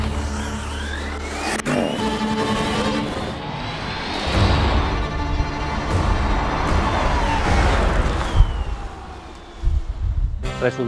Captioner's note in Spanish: Turbine noise + Music